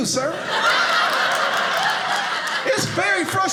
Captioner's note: audience laughing